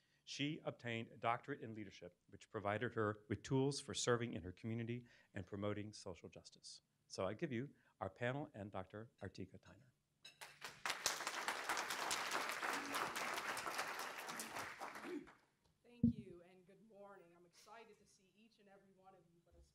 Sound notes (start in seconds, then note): 10.4 audience applauding